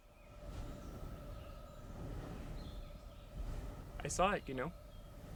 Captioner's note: magical wind blowing